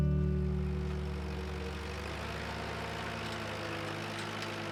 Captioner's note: tractor rumbles